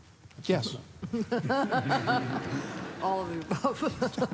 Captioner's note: laughter